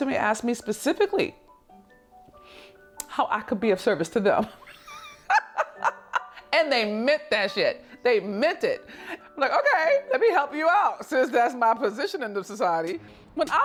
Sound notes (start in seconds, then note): 4.6 laughs